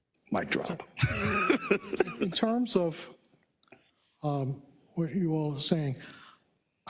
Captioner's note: laugh